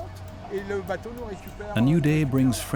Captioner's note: man speaking French